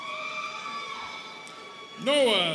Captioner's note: students cheering